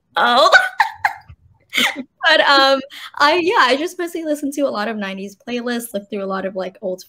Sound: laughs

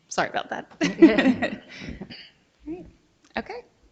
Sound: laughs

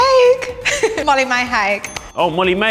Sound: correct bell

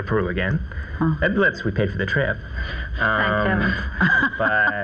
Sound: laughs

